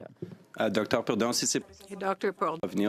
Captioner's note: speaking in French